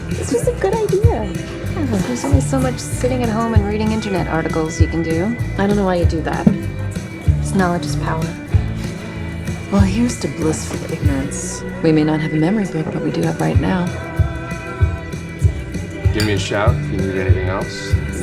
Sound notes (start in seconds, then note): none